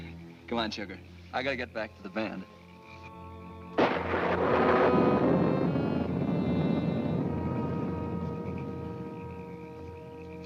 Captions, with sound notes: - Come on, sugar. I gotta get back to the band. (thunder cracking)